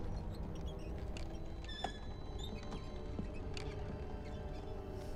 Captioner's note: cart squeaking